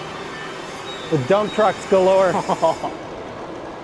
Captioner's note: laughs